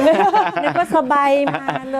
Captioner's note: laughs